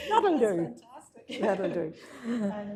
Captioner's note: chuckles